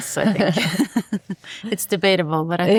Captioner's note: both chuckling